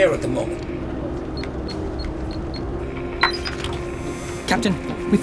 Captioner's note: beeping